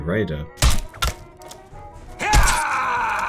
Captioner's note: pain noises